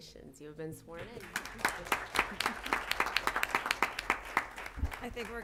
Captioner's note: applause